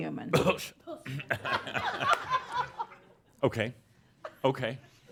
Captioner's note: pretends to gag, some laughter